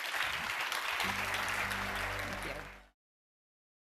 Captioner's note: audience applauding